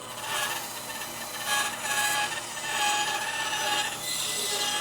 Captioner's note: tool squealing